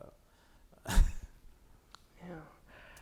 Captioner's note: chuckling